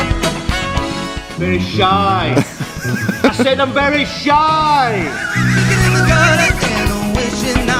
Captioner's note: shouting